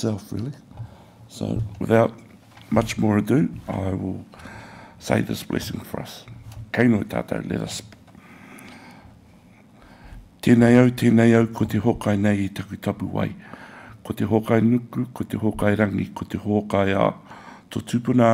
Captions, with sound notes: So, without much more ado, I will say this blessing for us. (speaks in Maori)